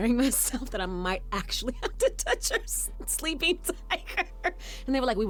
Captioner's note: laughs